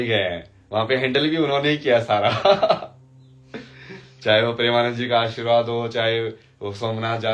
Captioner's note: हंसी